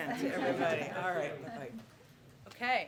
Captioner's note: laughter